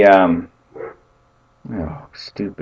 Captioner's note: dog barks